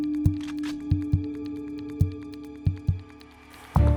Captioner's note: gun clicks